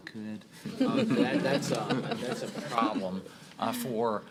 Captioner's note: laughter